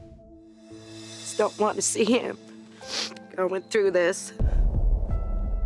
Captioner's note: sniffles